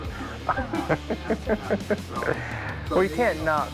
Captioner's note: laughter